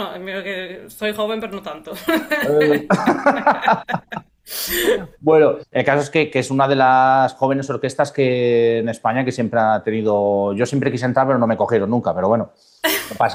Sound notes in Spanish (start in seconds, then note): 2.0 risas; 3.2 resoplido; 12.8 risas